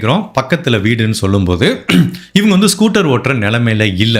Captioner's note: clears throa*t